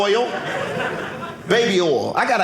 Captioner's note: audience laughing